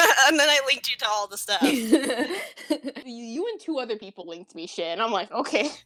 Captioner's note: laughter